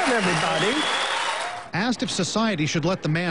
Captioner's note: applause